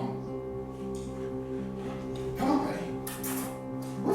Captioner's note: smooches